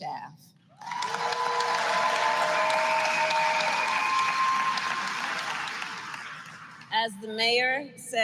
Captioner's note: applause